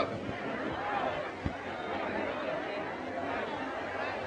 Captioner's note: crowd murmuring